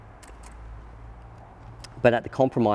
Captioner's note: clicking